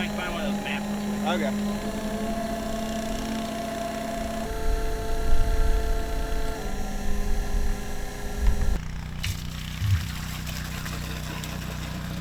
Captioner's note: engine sounds